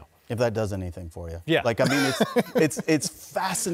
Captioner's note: laughter